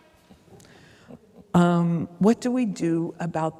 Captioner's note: chuckles